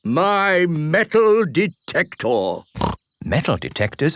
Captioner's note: snorting